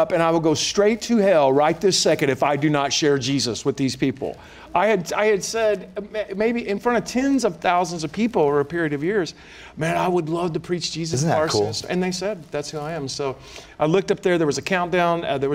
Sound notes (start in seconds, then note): none